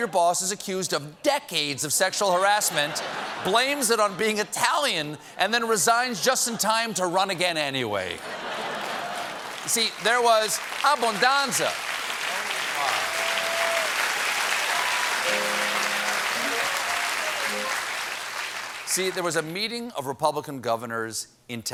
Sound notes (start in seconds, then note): 10.8 applause; 15.2 piano riff